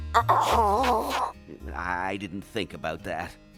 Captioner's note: coughing